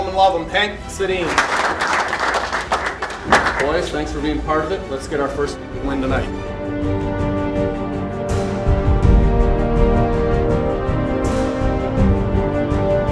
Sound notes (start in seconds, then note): 1.1 clapping; 7.3 instrumental music